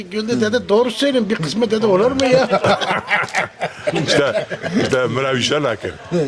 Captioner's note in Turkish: kahkaha